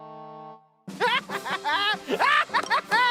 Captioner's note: laughing